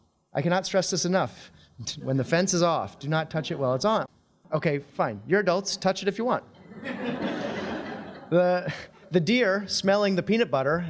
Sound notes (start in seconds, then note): 6.6 audience laughing